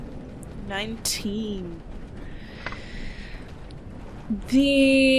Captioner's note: metallic tapping